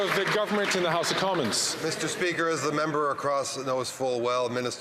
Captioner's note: applause